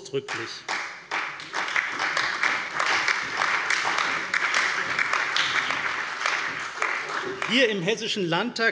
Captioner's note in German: Allgemeiner Beifall